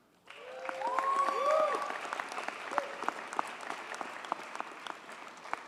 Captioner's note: audience cheers and applauds